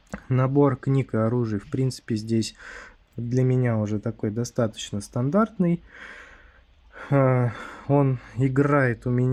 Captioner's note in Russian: вздыхает